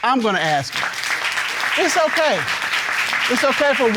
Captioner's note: audience clapping